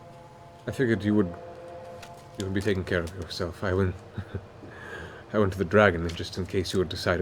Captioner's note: chuckles